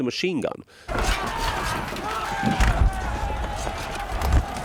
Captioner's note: soldiers shouting; weapons clanking